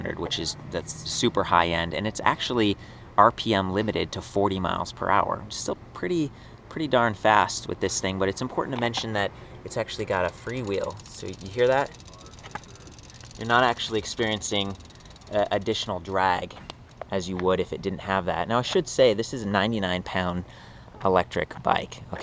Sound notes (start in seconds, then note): 12.1 wheel clicks rapidly